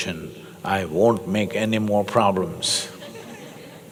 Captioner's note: laughter